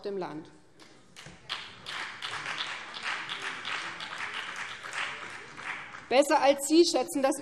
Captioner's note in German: Beifall BÜNDNIS 90/DIE GRÜNEN